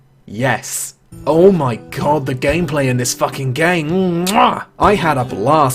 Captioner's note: mwah